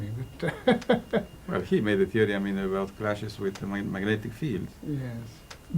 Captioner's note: laughter